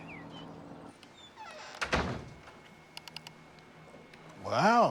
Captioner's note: door creaks and closes